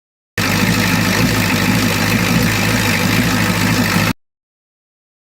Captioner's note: engine idling erratically